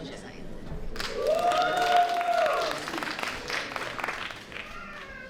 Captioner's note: applause